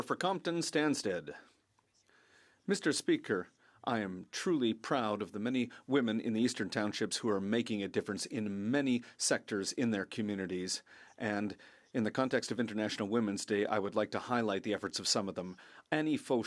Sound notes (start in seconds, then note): 6.3 speaking French